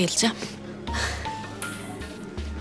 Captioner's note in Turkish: Gülme sesi